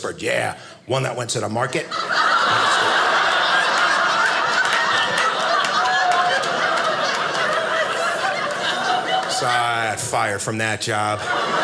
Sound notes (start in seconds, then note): 1.8 audience laughing